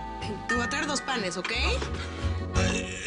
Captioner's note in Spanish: Timbre de la puerta